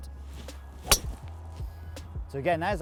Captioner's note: thwack sound